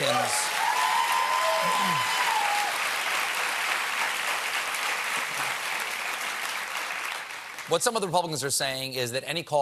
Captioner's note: cheers and applause